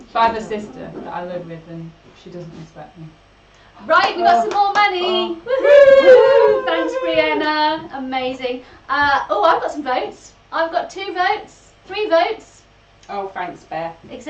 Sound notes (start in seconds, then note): 4.0 they cheer